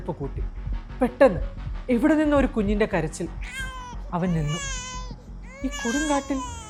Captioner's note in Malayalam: കരയുന്നു